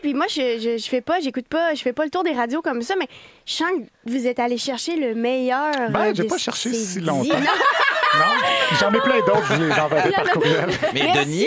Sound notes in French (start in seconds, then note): 7.2 rires